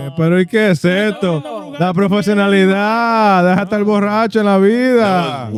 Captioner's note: speaking In Foreign Language